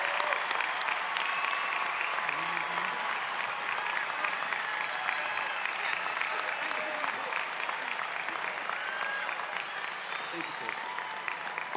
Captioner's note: applause